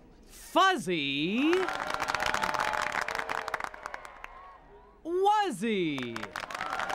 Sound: audience applauds each time new word is formed

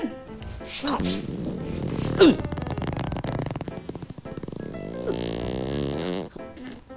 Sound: continuous farting

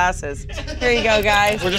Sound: crew laughing

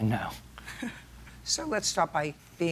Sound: chuckles

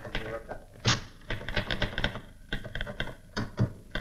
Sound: typewriter Clacking

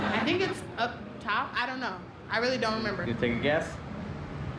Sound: laughter

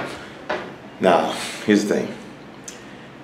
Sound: sighing

